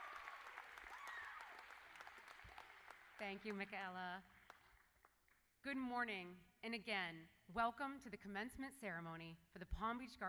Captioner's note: cheers and Applause